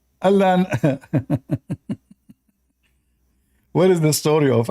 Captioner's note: Ketawa